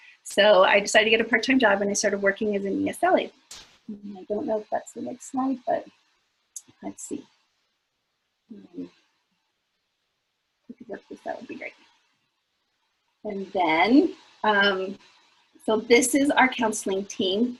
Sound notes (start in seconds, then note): 8.6 mumbling to self